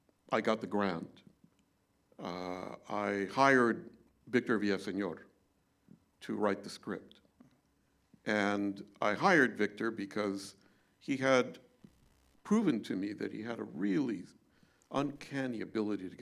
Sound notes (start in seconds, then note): none